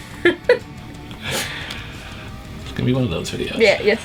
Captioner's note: laughs